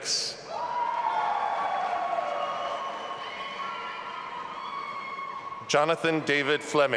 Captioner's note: audience applauding and cheering